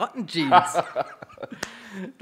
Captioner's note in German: Lachen